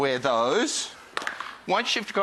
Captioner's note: shoes clattering